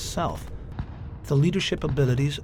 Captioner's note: guns firing